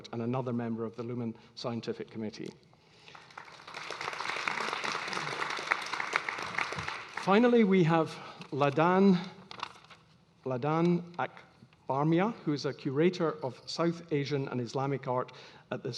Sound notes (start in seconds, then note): 3.0 audience applauding